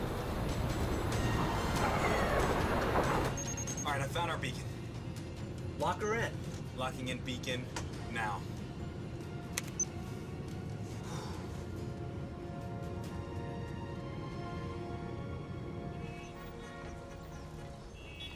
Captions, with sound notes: ALL RIGHT, I FOUND OUR BEACON. LOCK HER IN. LOCKING IN BEACON NOW. [SIGHS] [HORNS HONKING]